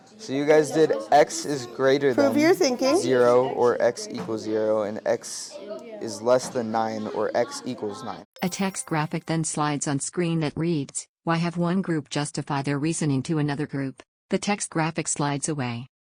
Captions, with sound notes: So you guys did X is greater than... Prove you're thinking. zero or X equals zero. And X is less than nine or X equals nine. (chime) A text graphic then slides on screen that reads; Why have one group justify their reasoning to another group? The text graphics slides away.